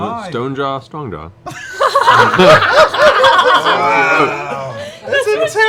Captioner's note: laughter